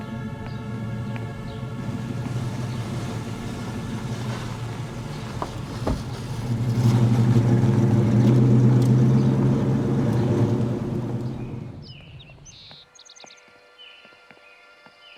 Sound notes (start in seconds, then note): 4.6 tense music; 7.8 engine purring; 12.2 birds chirping